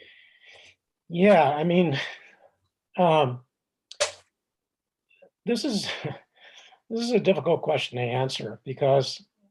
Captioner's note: chuckles